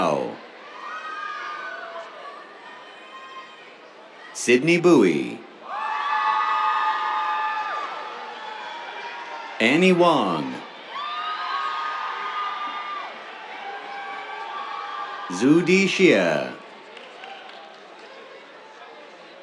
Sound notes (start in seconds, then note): 0.2 cheers; 5.6 cheers; 10.7 cheers; 16.2 applause